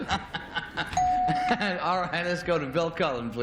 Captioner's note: laughter; bell